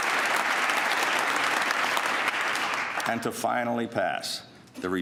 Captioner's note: applause